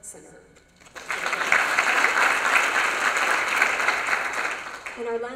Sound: applause

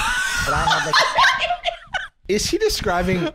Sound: all laughing

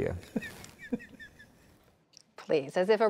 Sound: laughter

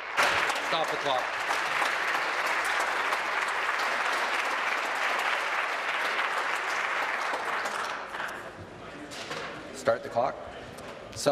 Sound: applause

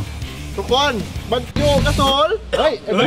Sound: chocking

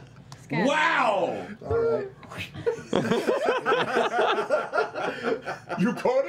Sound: laughter

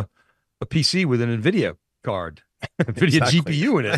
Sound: laughing

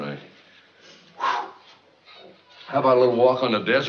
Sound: exhaling

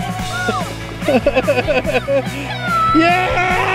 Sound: laughing

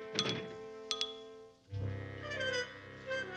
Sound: chair bumps

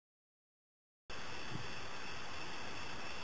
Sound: thud

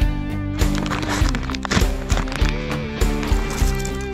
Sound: bag crinkling

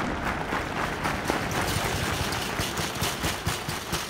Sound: clapping in distance; banging on metal

